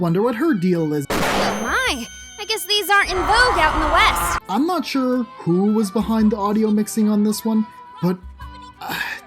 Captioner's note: Ori screeching commences